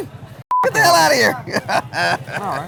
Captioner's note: beeps; laughs